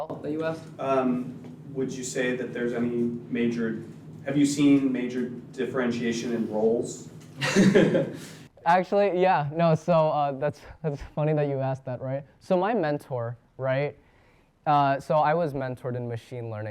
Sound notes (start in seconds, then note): 7.3 laughs lightly